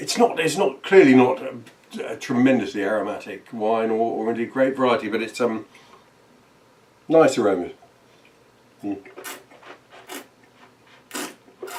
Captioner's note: slurping